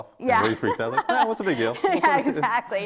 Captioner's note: laughing